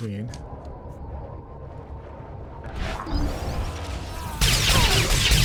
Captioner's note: explosion